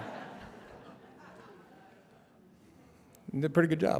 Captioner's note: laughter